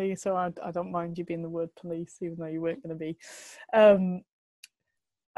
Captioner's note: none